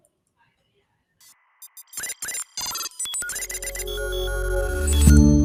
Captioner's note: electronic beeping